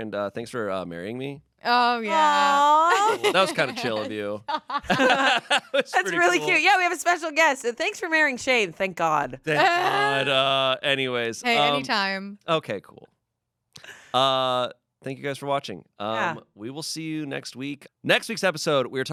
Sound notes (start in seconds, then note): 4.5 everyone laughs